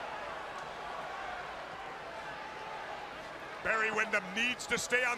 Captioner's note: crowd cheering